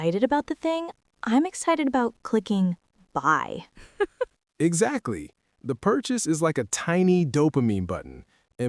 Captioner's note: laughs